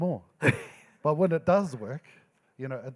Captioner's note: laughing